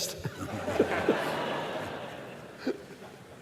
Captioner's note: laughter